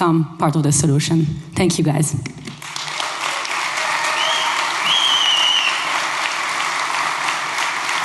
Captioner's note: applause